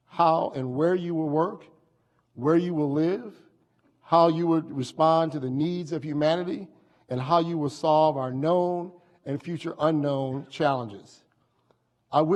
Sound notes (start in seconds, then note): none